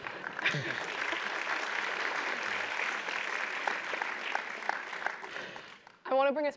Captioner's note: applause; laugh